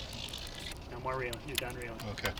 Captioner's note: reel whining